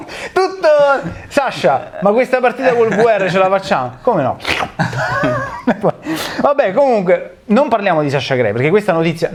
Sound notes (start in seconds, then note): 4.3 slurp